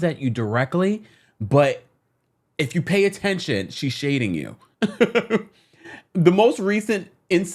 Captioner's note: laughs